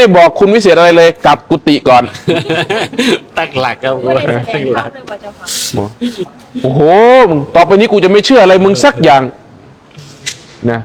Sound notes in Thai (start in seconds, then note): 2.0 เสียงหัวเราะ